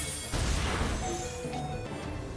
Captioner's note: low HP sound